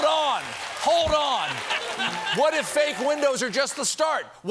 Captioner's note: cheers and applause